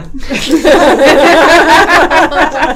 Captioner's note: all laughing